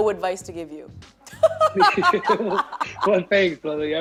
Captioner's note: both laughing